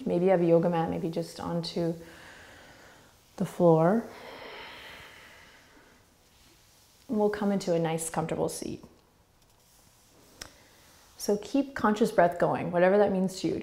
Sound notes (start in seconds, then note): 4.0 exhaling